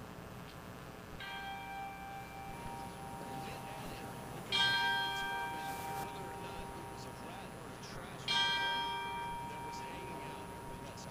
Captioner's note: bell rings 3 times